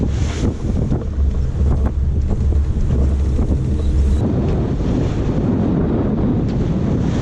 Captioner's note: wind, waves crashing